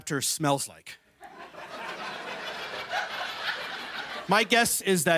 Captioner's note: laughter